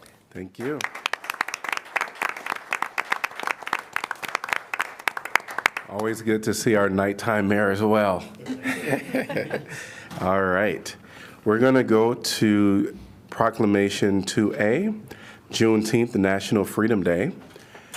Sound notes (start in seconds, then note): 0.5 applause; 8.3 laughter